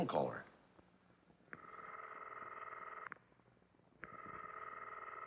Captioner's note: phone rings